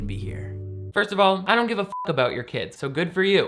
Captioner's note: beep